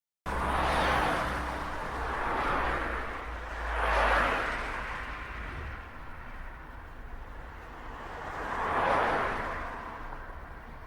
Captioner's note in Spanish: Sonido de autos circulando en carretera a alta velocidad